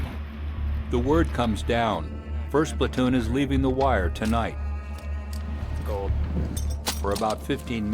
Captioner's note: voiceover